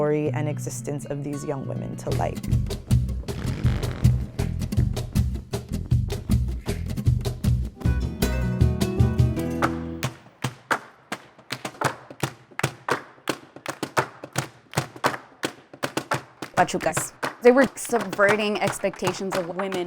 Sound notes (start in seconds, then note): 2.5 upbeat music; 10.9 feet stomping